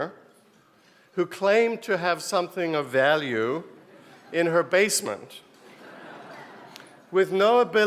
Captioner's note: laugh